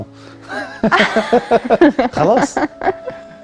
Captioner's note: laughs!